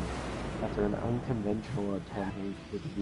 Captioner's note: recording skips